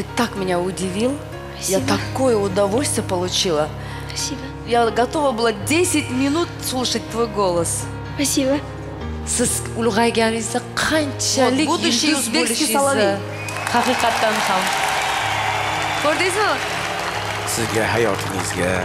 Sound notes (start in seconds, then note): 13.2 applause